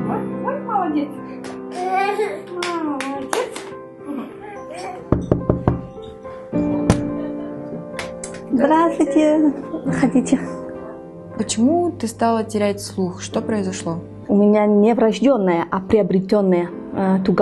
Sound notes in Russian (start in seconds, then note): 5.1 стук в дверь